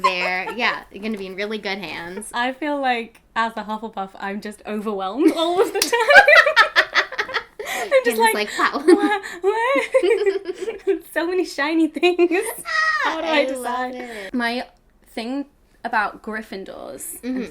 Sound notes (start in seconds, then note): 5.8 both laughing; 10.5 laughs